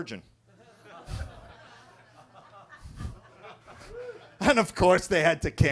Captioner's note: attendees laughing